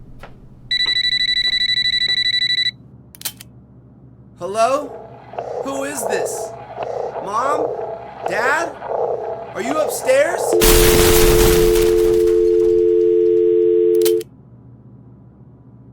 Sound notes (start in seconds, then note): 0.8 telephone ringing; 12.2 disconnect tone